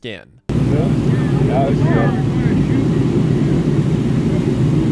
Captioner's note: indistinct chatter